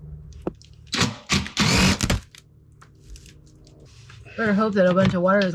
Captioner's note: drill whirring